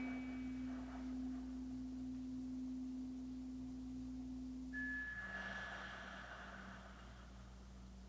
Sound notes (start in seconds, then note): 1.8 chimes ringing continues; 1.8 slow breathing continues